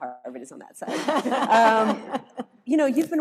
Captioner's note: all laughing